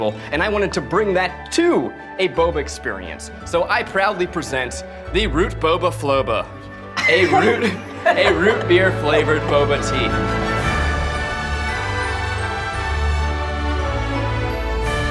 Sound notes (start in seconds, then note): 7.0 laughter